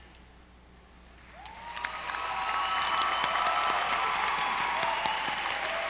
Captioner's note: audience applauding